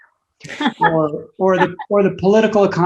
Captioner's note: laughs